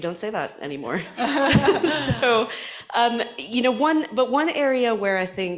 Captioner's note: laughter